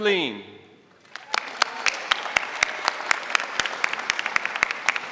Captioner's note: audience applauding